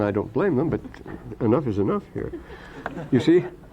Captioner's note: laughter